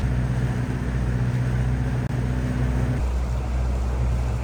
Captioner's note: sounds of waves and the engine